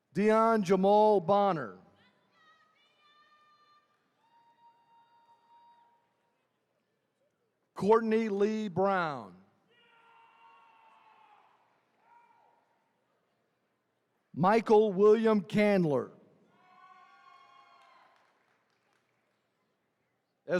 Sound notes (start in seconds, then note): 9.8 attendees cheering; 16.5 attendees cheering